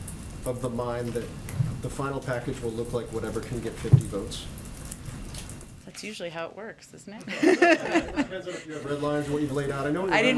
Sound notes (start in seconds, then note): 7.2 laughter